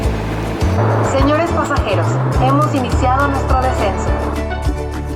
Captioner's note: speaking Spanish